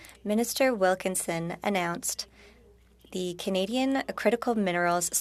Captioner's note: speaking French